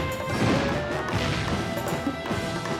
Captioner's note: dramatic orchestral music; footsteps thump